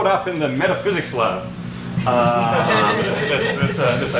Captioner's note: audience laughs